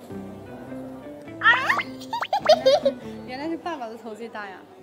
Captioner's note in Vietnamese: Ha ha ha ha ha